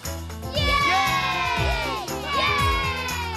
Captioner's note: all Cheering